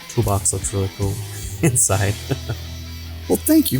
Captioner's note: laughing